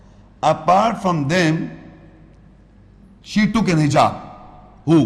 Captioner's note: Arabic